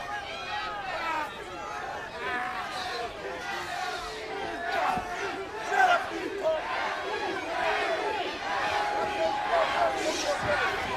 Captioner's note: crowd chatter